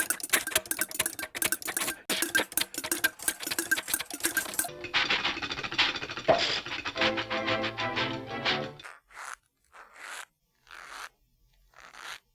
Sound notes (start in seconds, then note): 0.0 chuffing; 5.0 engine chuffing and clattering; 8.8 soft creaking